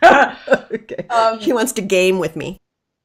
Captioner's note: laughing